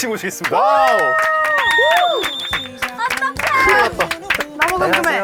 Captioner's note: cheering from both sides